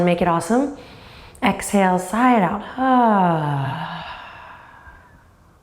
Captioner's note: sighs